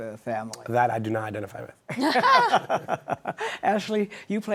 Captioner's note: laughter